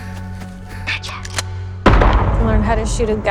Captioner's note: gunshot